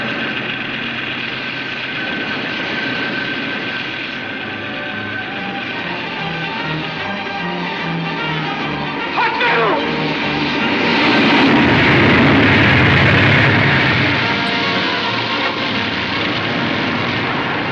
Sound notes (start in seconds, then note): 11.3 crane crashing